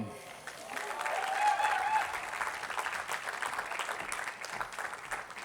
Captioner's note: attendees applauding